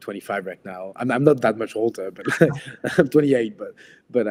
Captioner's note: laughs